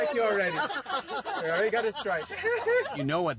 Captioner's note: laughing